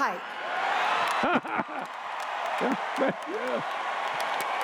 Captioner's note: cheers